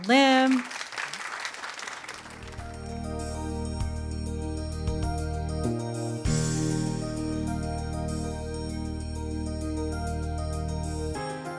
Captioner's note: applause